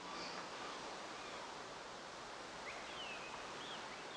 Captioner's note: birds chirping